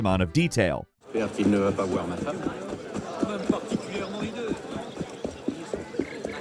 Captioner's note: characters chatting in French